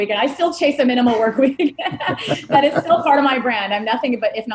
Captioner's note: laughing